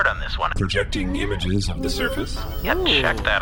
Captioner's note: projection boot-up noise